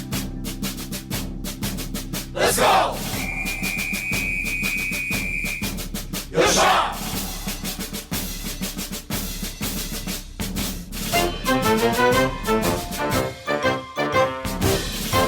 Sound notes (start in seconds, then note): 0.1 military cadence playing; 2.9 speaking in foreign language; 8.1 military cadence playing